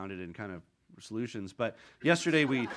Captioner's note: audience laughing